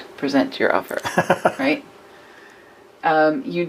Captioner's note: man laughs